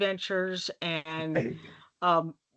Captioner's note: chuckling